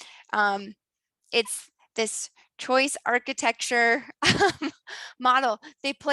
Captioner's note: laughs